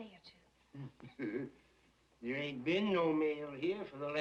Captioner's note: laughs nervously